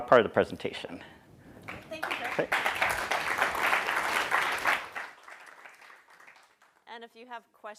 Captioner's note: applause